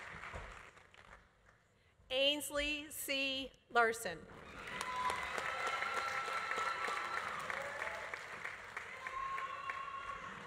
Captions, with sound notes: Ainsley C. Larsen. (audience applauding) (audience cheering)